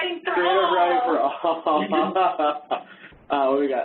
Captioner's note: laughing